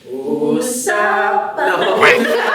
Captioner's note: sing-song; laughter